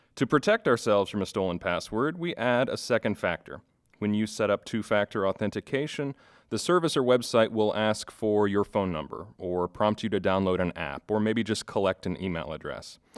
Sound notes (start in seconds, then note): none